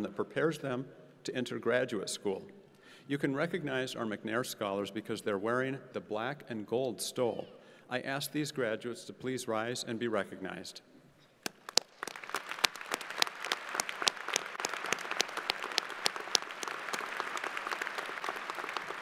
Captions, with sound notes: that prepares them to enter graduate school. You can recognize our McNair scholars because they're wearing the black and gold stole. I ask these graduates to please rise and be recognized. (crowd applauding)